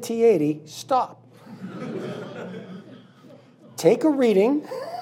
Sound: laughing

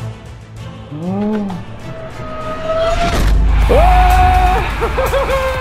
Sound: crowd cheering

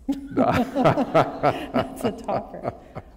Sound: laughter

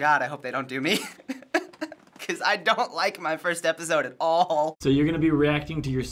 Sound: chuckles

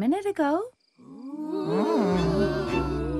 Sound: scary moans and groans

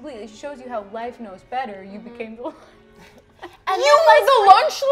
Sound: laughs

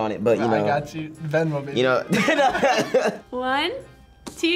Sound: laughs

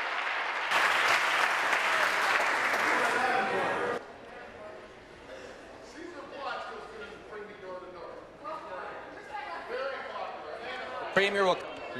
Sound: applause

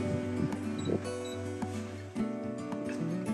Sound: bip bio from the autopilot

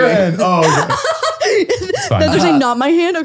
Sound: laughing

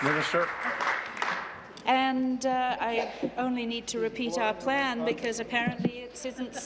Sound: applause

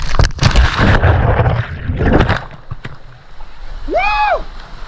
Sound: water splashes

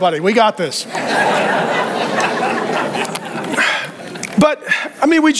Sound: congregation laughing

